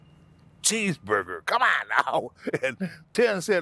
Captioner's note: laughing